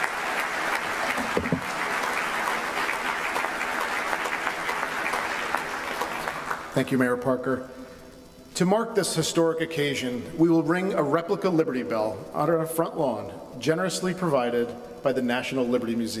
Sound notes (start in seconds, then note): 4.0 applause